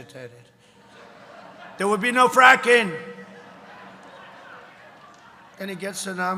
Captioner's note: laughter